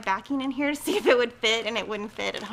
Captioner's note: chuckles